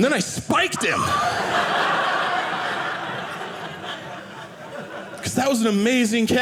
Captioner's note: audience laughing